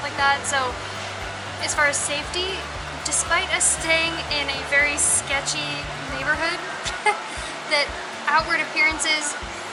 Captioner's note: laughter